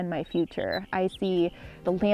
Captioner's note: birds chirp